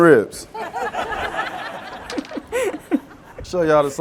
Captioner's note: all laughing